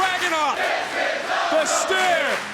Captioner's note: crowd chants "This is awesome"